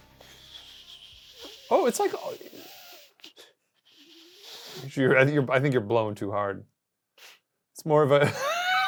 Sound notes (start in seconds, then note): 0.2 whistles softly